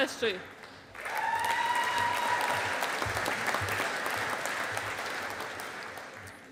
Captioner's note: audience applauding